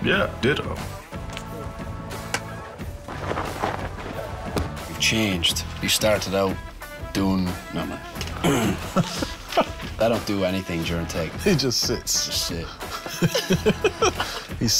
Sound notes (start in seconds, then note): 2.3 dirt scuffling; 8.2 laughing; 12.7 both laughing